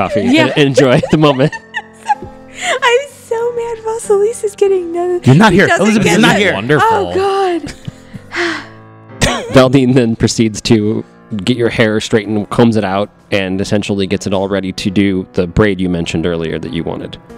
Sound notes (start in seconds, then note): 0.0 laughs; 3.1 laughing; 8.1 deep breath; 9.3 chuckles